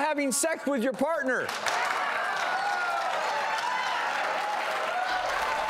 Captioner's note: audience cheering